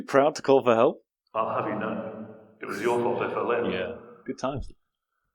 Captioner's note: echoing